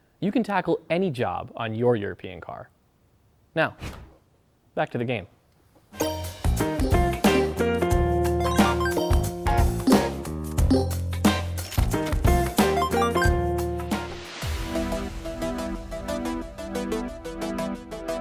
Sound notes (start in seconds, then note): 6.6 electronic beeping and chiming; 14.7 energetic techno music